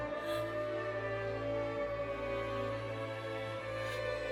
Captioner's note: howling continues